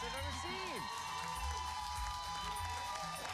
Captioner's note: cheers and applause